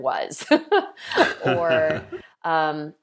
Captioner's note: laughing